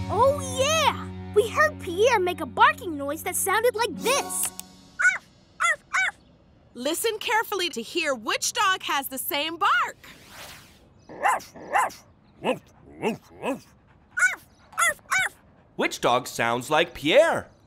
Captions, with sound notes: Yeah, we heard Pierre make a barking noise that sounded like this. [barking] Listen carefully to hear which dog has the same bark. [barking] Which dog sounds like Pierre?